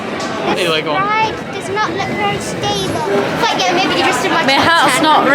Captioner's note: laughter